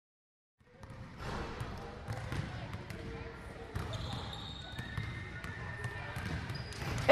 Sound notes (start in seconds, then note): 0.6 basketballs dribble; 1.1 sneakers squeak